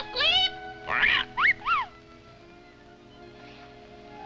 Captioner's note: Caesar whistles